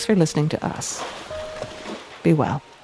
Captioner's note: water splashing